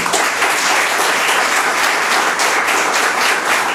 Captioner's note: applauding